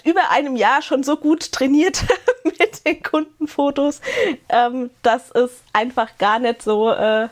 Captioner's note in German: gelächter